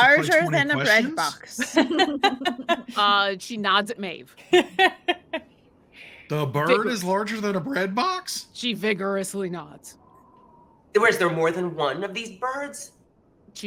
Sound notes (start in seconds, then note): 1.5 characters laugh; 5.1 laughs